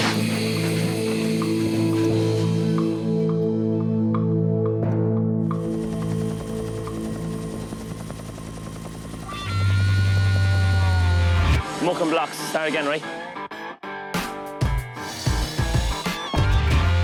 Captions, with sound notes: (ominous music) (helicopter sounds) (upbeat music) - Muck and blocks start again right? (upbeat music)